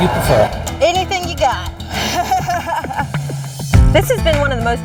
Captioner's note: laughs